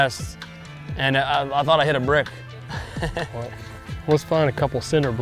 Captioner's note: laughs